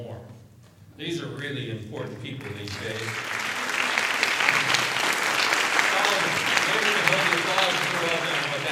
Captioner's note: applause